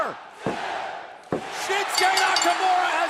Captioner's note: crowd cheering